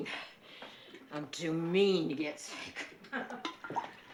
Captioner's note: chuckles